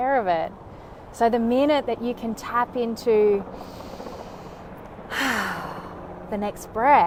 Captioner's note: exhales deeply